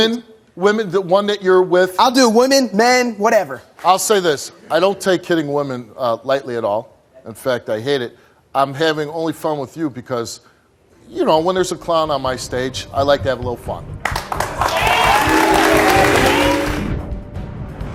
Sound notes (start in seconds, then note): 14.0 audience clapping